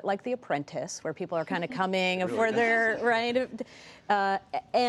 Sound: laughter

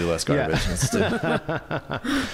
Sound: laughs

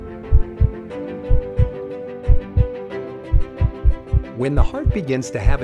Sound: heart beat

